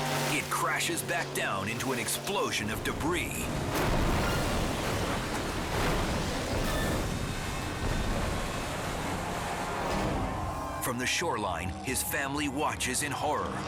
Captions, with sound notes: It crashes back down into an explosion of debris. (boat crashing) (water splashing) (crowd screaming) From the shoreline, his family watches in horror.